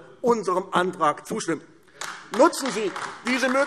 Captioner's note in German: Beifall AfD